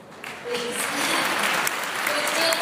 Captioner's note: applause